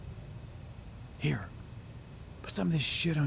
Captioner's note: Kinard, whispering